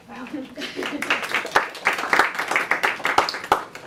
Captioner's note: applause